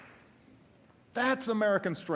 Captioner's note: applause